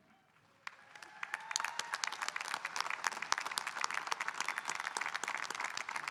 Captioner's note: audience cheering and applauding